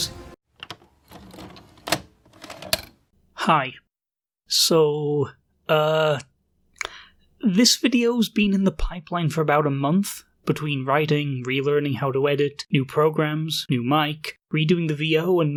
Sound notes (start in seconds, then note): 0.0 music cuts, VHS eject sound plays; 4.4 tongue clacking noise